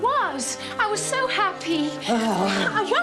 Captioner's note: groans